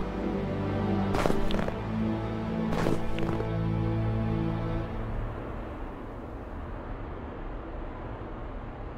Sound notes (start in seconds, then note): 0.8 snow sounds